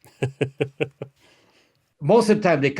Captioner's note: laughs